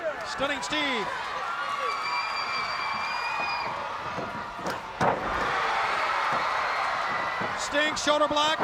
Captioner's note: crowd cheering